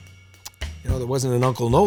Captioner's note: clicks tongue